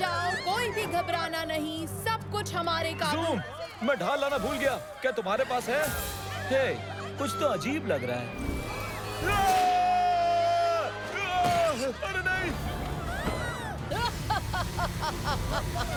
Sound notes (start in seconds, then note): 7.9 screaming; 11.1 townsponies screaming; 13.0 laughing